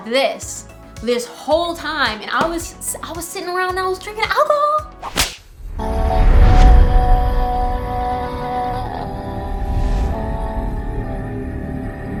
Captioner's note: whip sound